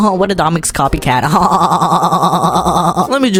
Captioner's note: holy damn that laugh XD